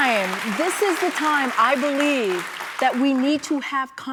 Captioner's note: applause